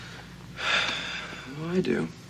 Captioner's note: Casey sighs